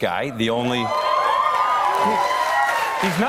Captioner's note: cheers and applause